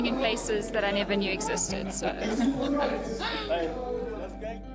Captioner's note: laughs